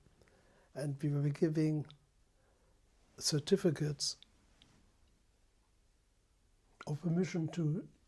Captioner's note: pauses for 3 seconds